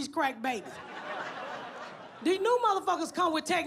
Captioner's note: audience laughs